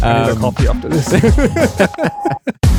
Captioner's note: both laughing